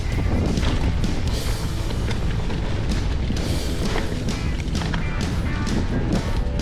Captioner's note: bike crashing